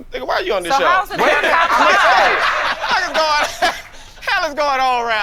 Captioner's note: all laughing